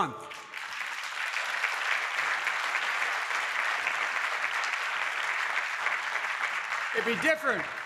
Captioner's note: applause